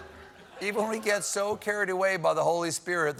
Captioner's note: laughter